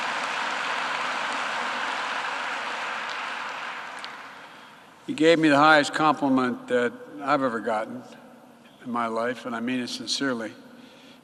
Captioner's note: applause